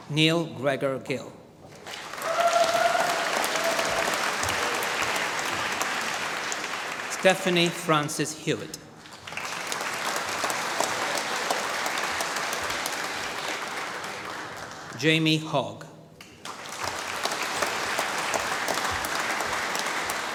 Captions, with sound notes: Neil Gregor Gill. (APPLAUSE) Stephanie Frances Hewitt. (APPLAUSE) Jamie Hogg. (APPLAUSE)